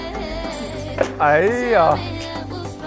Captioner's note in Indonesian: Tertawa